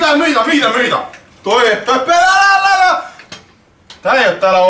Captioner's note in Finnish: huutoa!